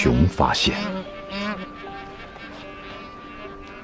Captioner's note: geese softly honking